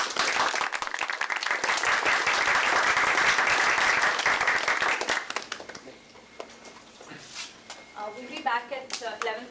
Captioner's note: applause